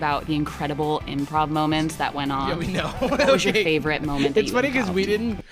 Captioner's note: laughs